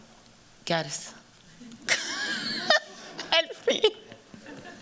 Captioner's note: laughter